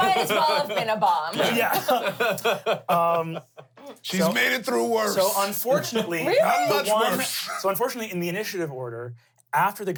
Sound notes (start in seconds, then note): 1.7 everyone laughs